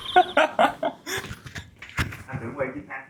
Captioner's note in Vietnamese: tiếng cười